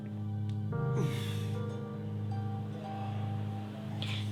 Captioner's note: groans